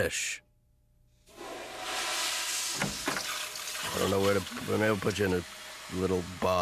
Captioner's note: toilet flushing